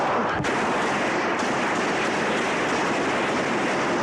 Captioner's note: gunfire